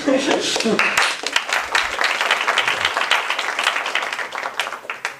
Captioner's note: applause